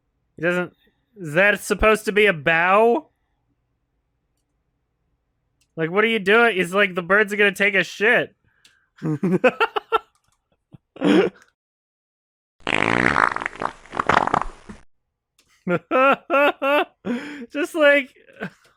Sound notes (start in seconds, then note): 9.0 laughs; 15.5 chuckles